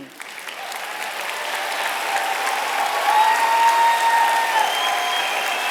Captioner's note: applause